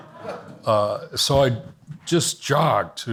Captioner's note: audience laughs